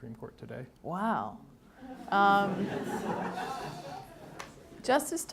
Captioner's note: audience laughing